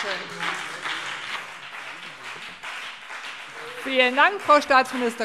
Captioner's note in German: Beifall